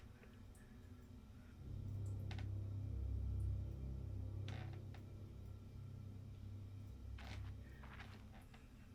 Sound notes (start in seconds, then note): 1.3 ominous music; 2.1 floor creaking